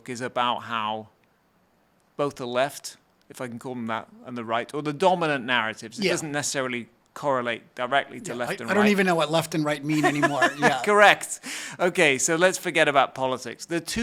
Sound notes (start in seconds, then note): 9.8 laughs